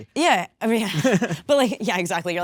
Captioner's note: Jesse chuckling